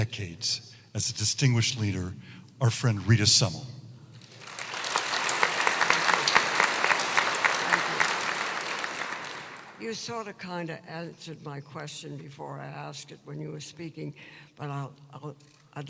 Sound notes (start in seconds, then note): 4.2 applause